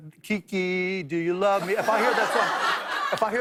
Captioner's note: laughter